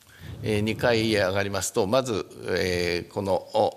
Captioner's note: speaking japanese